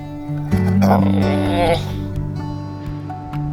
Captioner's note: dog whimpers